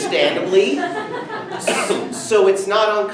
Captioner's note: students laugh